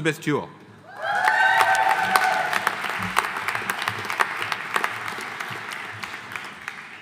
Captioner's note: audience cheering; audience applauding